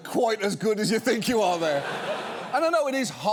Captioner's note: studio audience laughs